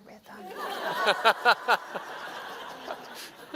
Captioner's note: laughter